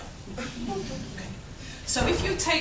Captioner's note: chuckles